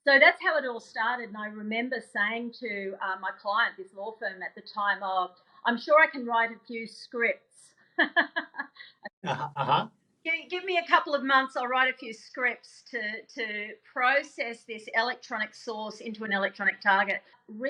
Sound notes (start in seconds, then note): 9.2 laughing